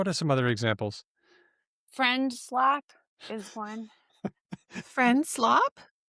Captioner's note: laughs